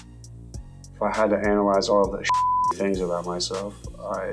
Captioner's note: beep